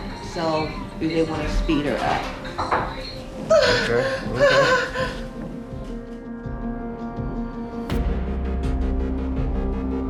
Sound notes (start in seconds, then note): 3.4 crying; 6.5 tense music